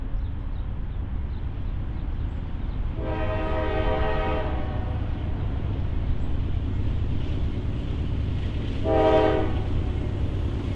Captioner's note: horn